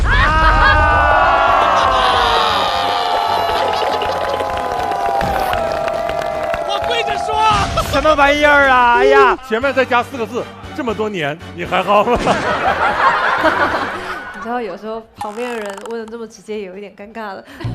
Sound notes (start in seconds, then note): 3.8 haha